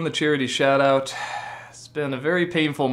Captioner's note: sigh